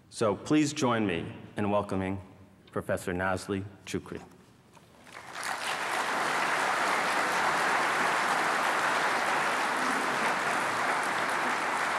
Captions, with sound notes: So please join me in welcoming Professor Nazli Choucri. [APPLAUSE]